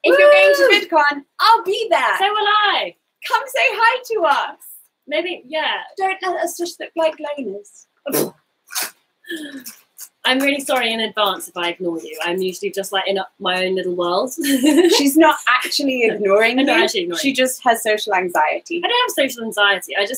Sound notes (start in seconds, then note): 8.6 scoffs